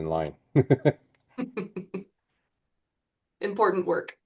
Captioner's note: laugh